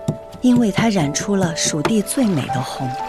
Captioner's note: grinding and mixing